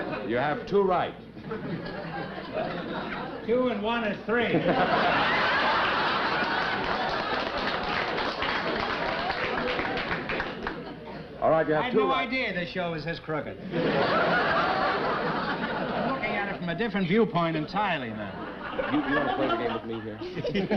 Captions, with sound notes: You have two right. Two and one is three. [CHUCKLING] [APPLAUSE] All right, you have two right. I had no idea this show is this crooked. [CHUCKLING] I'm looking at it from a different viewpoint entirely now. You want to play the game with me here?